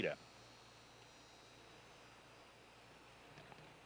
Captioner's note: none